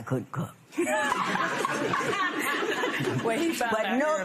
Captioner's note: laughter